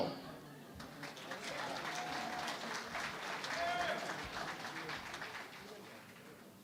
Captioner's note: applause